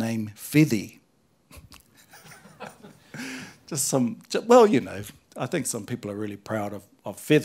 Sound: chuckles

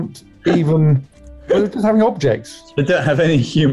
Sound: laughing

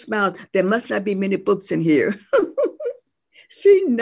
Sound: laughs

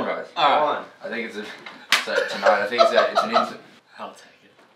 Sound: clap

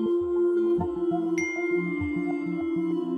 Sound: mobile pings

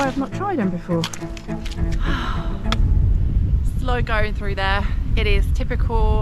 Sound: sigh

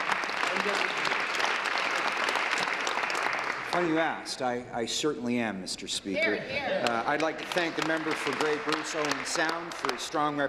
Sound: applause

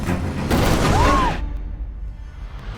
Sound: dramatic string music playing; screams

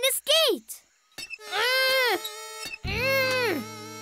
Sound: grunting

